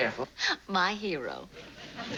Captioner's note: laughs